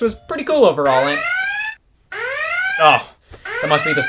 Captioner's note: siren wailing